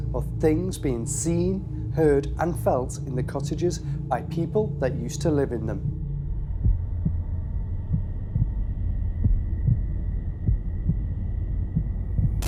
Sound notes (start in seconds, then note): 5.8 heartbeating over echoing sounds